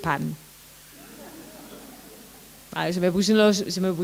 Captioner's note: laughter